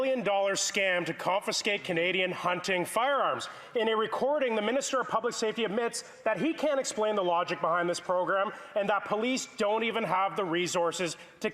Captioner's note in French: voix de l'interprète